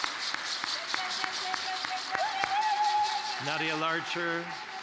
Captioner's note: applause